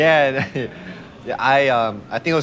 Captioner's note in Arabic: ضحك